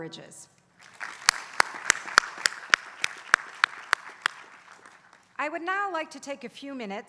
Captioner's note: applause